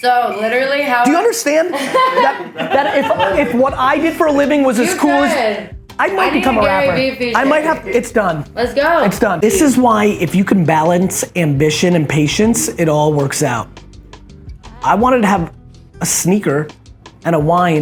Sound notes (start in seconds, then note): 1.7 everyone laughs